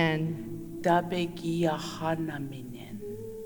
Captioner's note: In Mi’kmaq